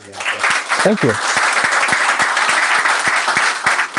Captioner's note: applause